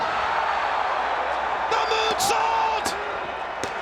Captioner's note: crowd cheering